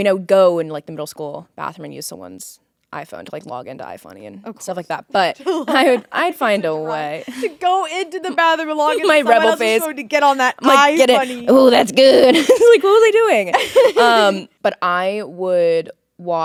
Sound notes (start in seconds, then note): 13.4 laughing